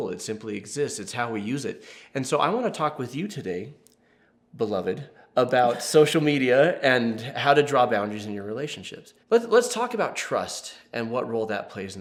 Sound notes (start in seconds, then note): none